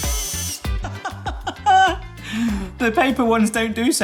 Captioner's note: laughs